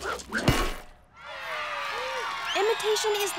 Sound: cheering

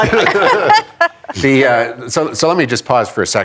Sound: laughter

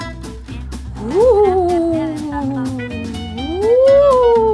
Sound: Scooby screams; ghost wailing

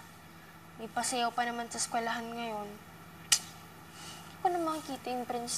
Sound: clicks tongue

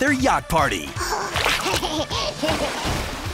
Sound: laughing

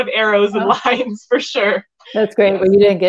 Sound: chuckling

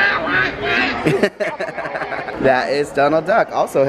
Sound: laughs

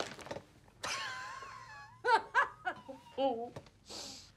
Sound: laughs

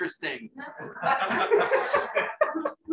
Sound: laughter

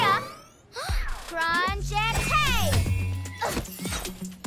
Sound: gasps

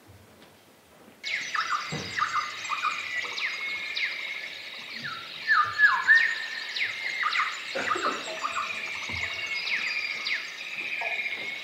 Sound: Athenian forest sounds grow louder

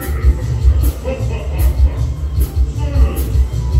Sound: Admiral Orc Laughs

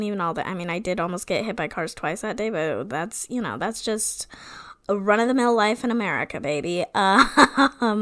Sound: laughing

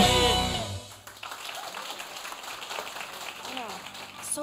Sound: audience clapping

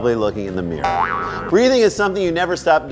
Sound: boing

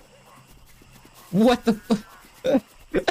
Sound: laughing

